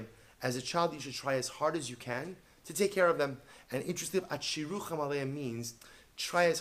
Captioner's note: Hebrew; Hebrew